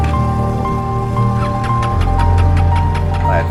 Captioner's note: engine turning over